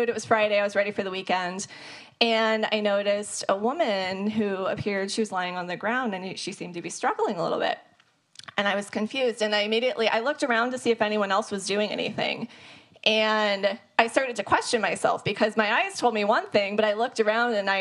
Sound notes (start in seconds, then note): none